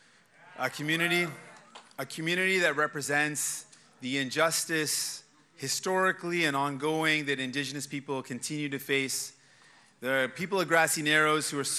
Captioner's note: cheers and applause